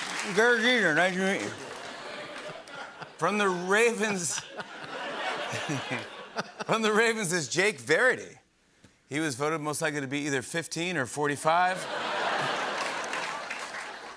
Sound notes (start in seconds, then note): 1.6 laughter; 11.7 laughter and applause